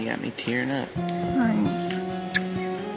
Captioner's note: smooch